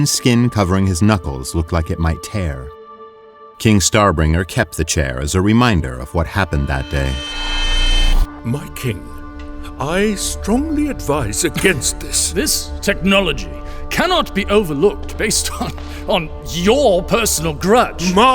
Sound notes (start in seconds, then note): 6.3 flashback whoosh